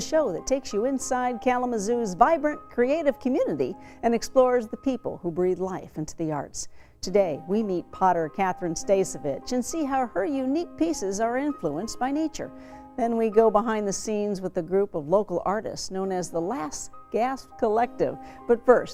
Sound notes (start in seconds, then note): none